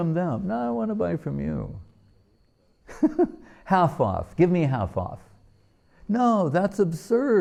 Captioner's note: laughing